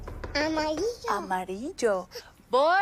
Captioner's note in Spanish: Toques en la puerta